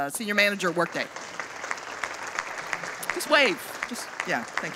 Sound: audience applauding

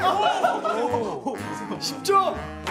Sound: burst out in laughter

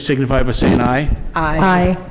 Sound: microphone static

